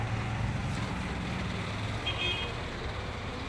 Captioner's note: horn honking